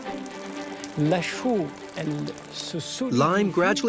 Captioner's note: speaking in foreign language